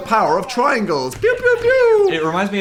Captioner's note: lazer noises